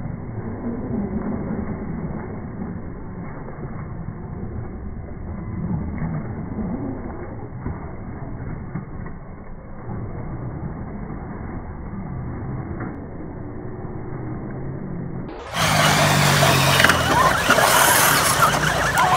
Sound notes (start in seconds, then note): 15.5 motors accelerate